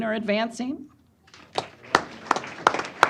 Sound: applause

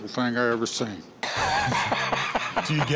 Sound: laughter

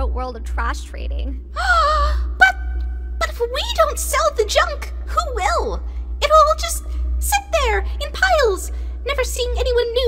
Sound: gasping

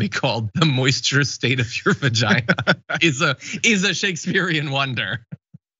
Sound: laugh

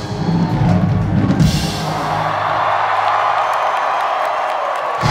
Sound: cheering

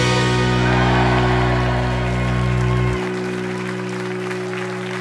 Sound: crowd cheers; applause

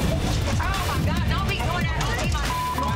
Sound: beep

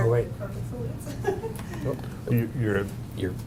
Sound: woman laughs

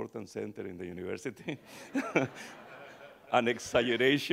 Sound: chuckles; audience chuckling

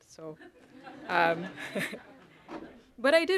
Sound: chuckling

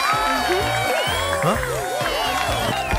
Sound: chiming; crowd cheers and applauds; Tobor grunts

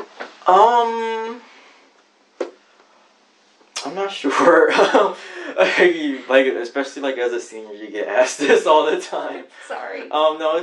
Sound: laughs

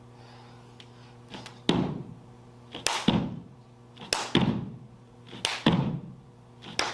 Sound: hands clapping; floor thudding

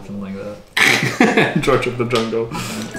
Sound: laughing

